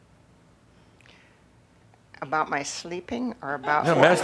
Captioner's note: laughter